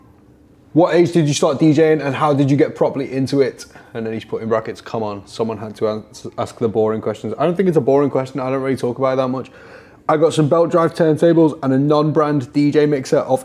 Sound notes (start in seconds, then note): none